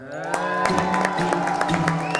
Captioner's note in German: Jubel, Applaus